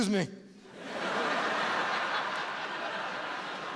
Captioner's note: laughter